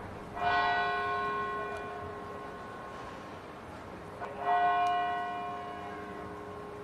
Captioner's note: bells tolling